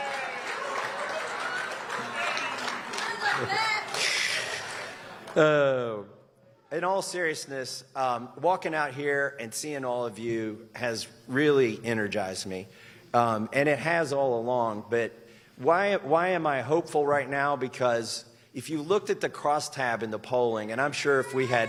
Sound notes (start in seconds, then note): 2.9 applause; 3.3 laughter